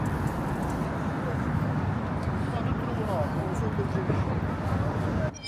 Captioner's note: people chattering